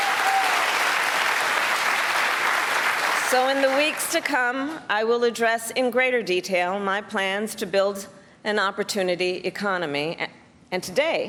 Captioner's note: cheers and applause